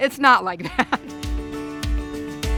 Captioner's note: laughs